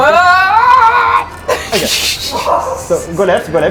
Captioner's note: screaming